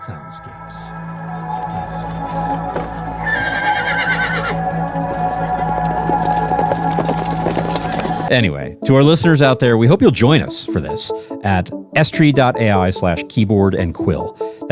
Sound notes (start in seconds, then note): 3.1 horse neighing; 5.2 hooves thudding